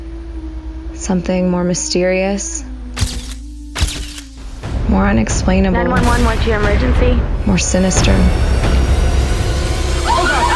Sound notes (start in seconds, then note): 2.1 shutter flashing; 7.9 dramatic music